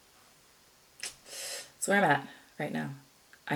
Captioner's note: clicks, inhales sharply